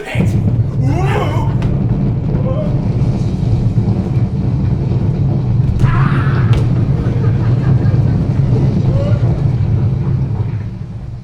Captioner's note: earthquake sounds but again